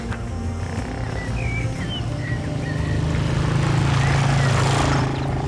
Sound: motorcycle rumbling

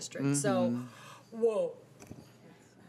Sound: affirmative humming

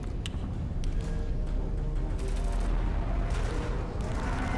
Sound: guns firing

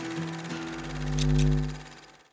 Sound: light hums; scissors clip

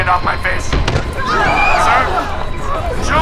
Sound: screams

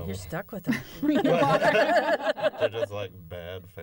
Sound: laughter

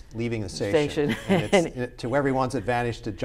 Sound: laughs

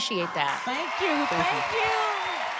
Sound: audience cheers

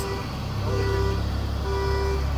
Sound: car horn honking

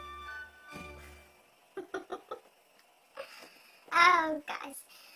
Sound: laughs

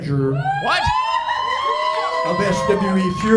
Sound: crowd cheering

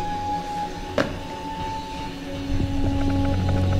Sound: object hits table

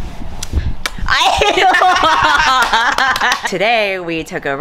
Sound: laughing

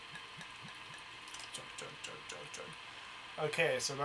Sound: glug glug glug glug; wispers

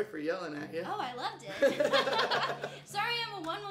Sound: both chuckles

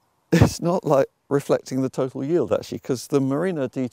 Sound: laughs

